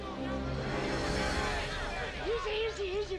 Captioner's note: posse hollering